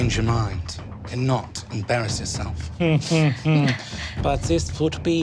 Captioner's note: chuckles